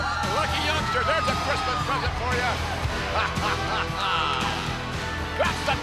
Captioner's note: laughs